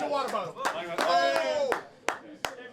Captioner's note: player clapping